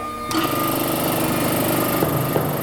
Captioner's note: rattling